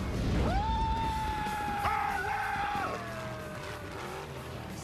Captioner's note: screaming